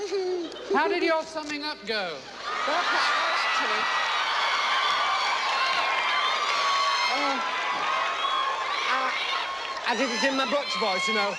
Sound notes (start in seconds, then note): 3.9 crowd cheering